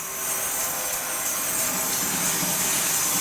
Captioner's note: saw whirs